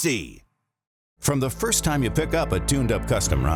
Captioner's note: voiceover